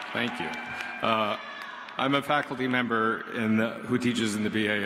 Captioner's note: applause